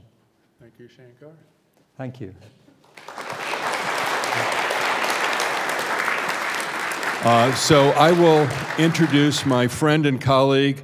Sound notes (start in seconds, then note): 2.8 audience applauds